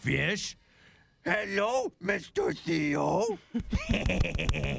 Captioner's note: changes voice; both giggle